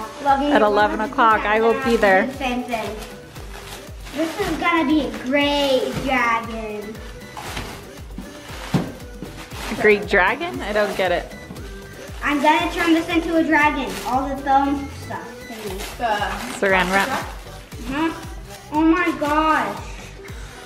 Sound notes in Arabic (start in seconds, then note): 7.3 رزمة تضرب على الطاولة; 9.5 حفيفات لف الساران